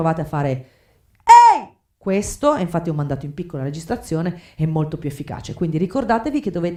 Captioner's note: yell